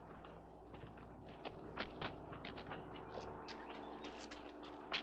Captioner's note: none